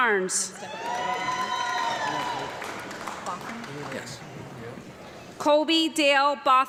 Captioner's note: audience clapping and cheering